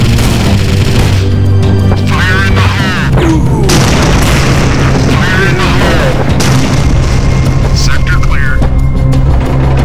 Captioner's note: gunfire, explosions